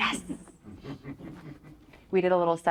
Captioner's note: chuckles